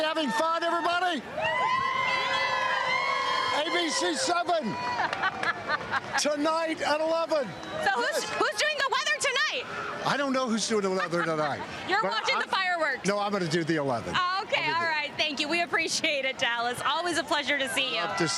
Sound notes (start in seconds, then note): 6.3 cheers and applause